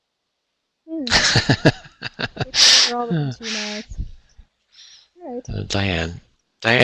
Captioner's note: faintly speaks